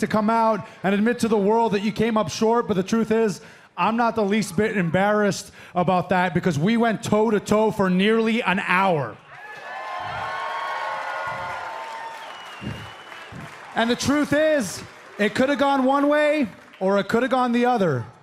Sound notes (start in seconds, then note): 9.3 cheers and applause